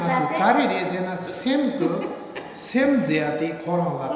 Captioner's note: speaking tibetan; speaking tibetan